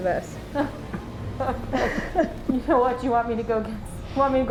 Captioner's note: both laughing